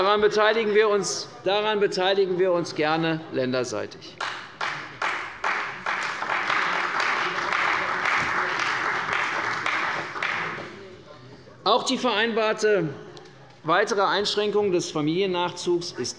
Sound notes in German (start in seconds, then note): 4.2 Beifall bei der CDU